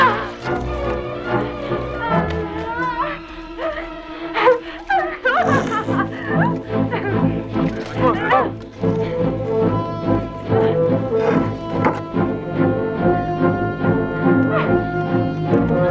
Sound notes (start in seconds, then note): 0.1 Hundra grunts; 2.4 Hundra laughing